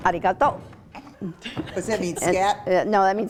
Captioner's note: laughs